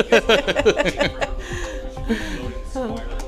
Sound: laughing

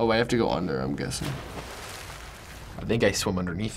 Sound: water splashes

